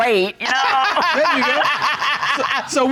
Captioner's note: judge laughs